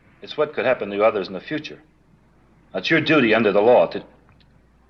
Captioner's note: none